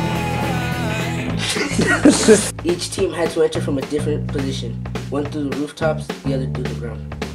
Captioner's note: all laughing